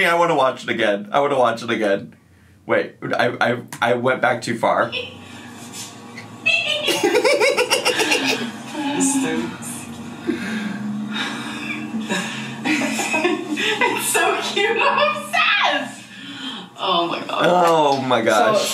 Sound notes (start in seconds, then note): 5.0 giggling; 15.7 laughing